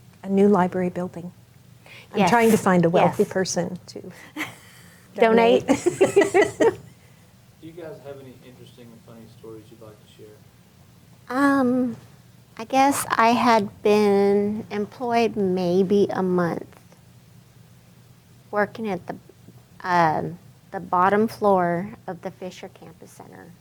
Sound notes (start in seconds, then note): 5.2 chuckles; 5.3 both laughing